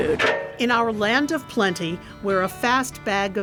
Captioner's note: metal clangs